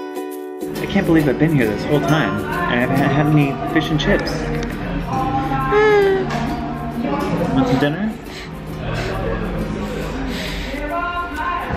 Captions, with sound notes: - I can't believe I've been here this whole time, and I haven't eaten fish and chips. (coos) Do you want some dinner? (guitar music)